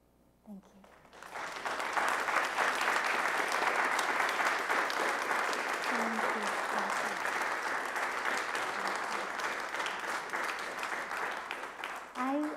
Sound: applause

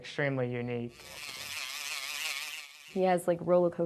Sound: whirring

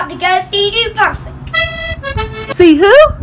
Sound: accordion sound effect

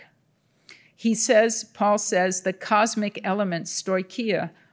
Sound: speaking in Greek

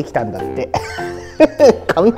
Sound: laughs

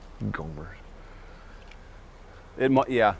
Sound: murmurs

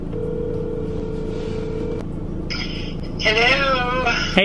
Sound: ringing

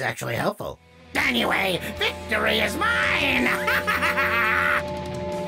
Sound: laughs maniacally, music powers up

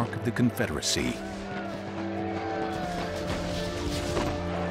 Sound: war sounds

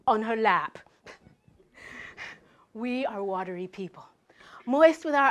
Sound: laugh

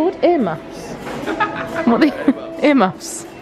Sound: laughs

